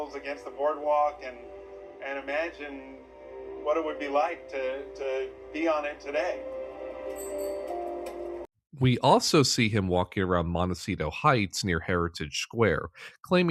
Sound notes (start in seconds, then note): 7.1 bicycle bell chime